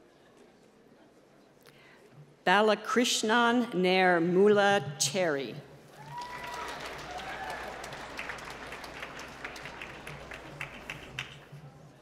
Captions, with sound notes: Balicrishnan Nairmulah Cherry. (applause)